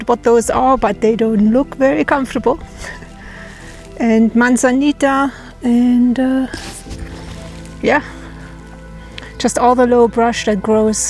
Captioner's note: laughs